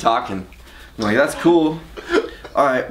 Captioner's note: laughs loudly